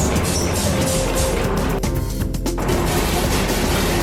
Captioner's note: spraying; bristles scraping